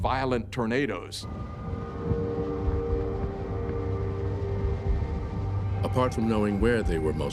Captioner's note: wind howling, thunder rumbling in distance